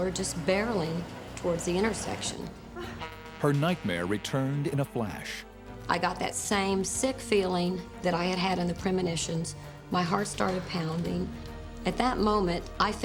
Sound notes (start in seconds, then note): 2.7 Becky gasps; 2.8 truck horn blows